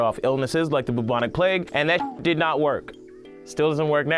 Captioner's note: beep